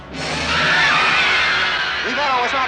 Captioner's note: crowd Screams